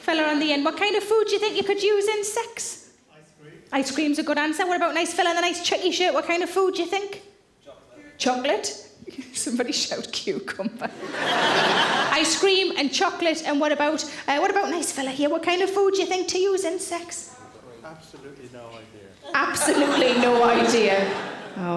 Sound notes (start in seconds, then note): 10.8 audience laughing